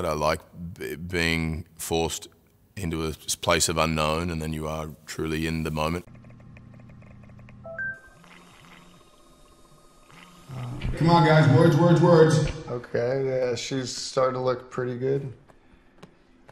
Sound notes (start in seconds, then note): 7.6 device dings